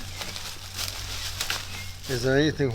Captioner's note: rustling leaves